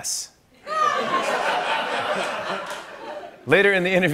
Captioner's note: laughter